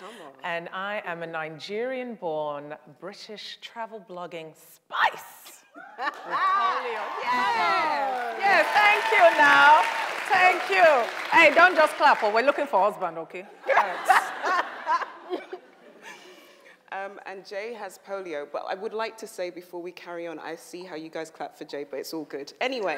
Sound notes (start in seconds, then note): 5.7 laughs; 6.1 audience applauds; 13.6 laugh